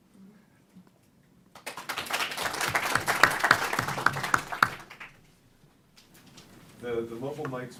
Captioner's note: applause